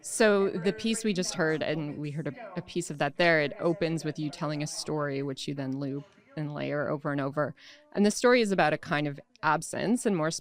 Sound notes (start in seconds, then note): none